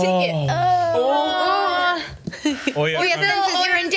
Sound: group moans

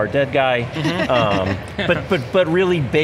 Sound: group laughing

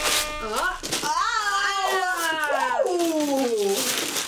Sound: horns blazing; papers rustling; excited babbling; papers rustling

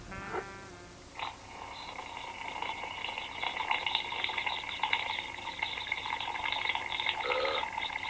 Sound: sipping

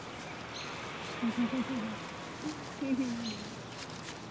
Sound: birds chirping

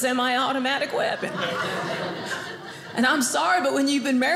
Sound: audience laughing

